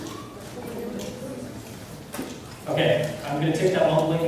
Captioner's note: class mumbling